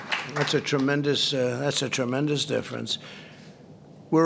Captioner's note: applause